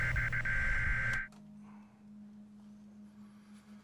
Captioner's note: buzzing stops